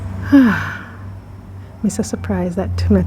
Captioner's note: sigh